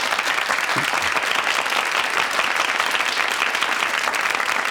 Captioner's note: audience clapping